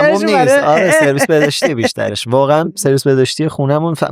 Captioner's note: laughs